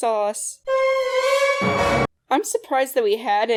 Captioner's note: Cutoff Spongebob dramatic impact